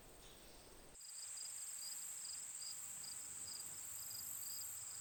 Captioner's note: insects buzzing